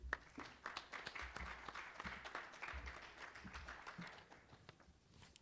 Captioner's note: applause